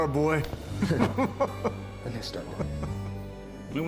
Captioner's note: chuckling happily